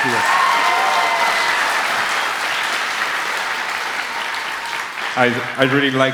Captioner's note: applause